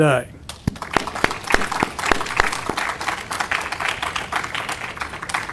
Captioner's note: audience applauding